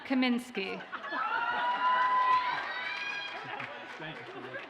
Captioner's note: audience cheers and applauds